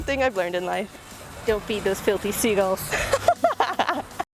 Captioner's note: laugh